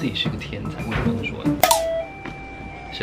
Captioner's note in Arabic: جرس الباب